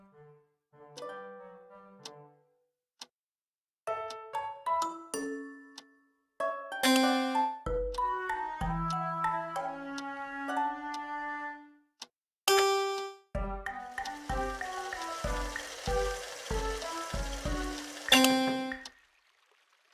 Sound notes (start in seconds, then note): 6.4 piano sound; 12.4 piano sound; 13.8 sink sound; 18.1 piano sound